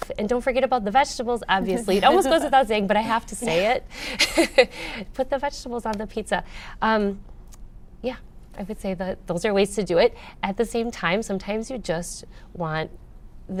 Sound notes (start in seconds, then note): 4.1 laughs